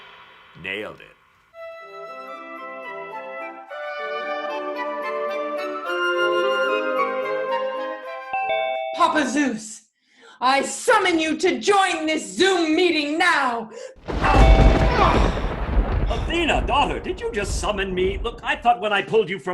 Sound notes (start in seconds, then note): 1.6 classical music; 14.0 thunder